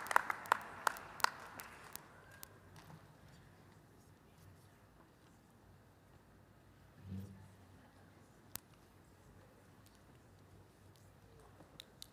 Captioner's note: applause